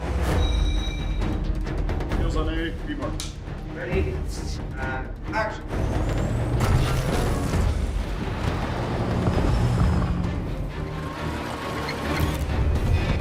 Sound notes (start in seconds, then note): 2.9 clap; 5.8 engine revving